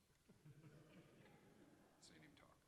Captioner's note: audience chuckles